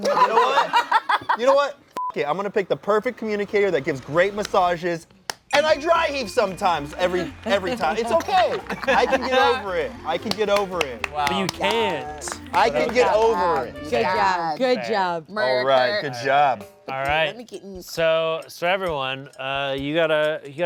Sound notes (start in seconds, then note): 0.0 everyone laughs; 2.0 beep